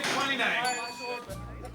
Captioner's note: bell ringing